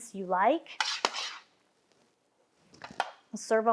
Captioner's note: metal scrapping